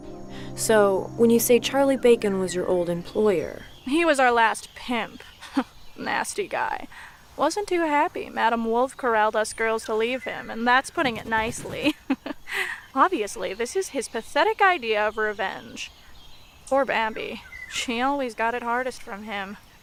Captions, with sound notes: So when you say Charlie Bacon was your old employer... He was our last pimp. [Chuckles] Nasty guy. Wasn't too happy Madame Wolfe corralled us girls to leave him, and that's putting it nicely. [Chuckles] Obviously, this is his pathetic idea of revenge. Poor Bambi. She always got it hardest from him.